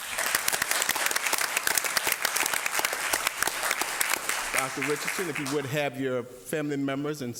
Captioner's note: applause